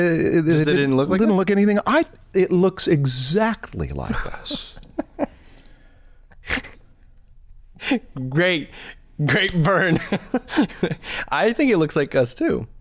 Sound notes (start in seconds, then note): 8.2 chuckle